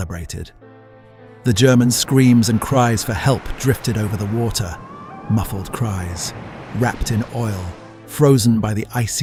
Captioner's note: muffled cries